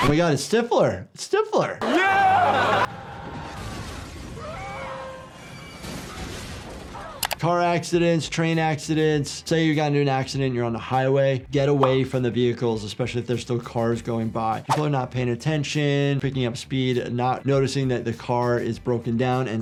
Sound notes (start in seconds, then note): 3.4 car smashing; 5.8 car smashing